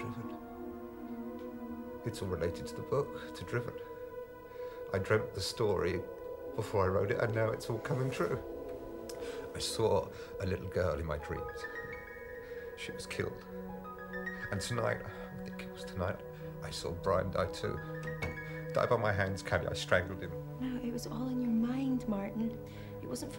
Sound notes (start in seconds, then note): 18.1 door thudding